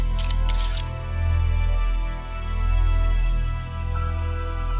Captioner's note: camera shutter clicks; somber music continues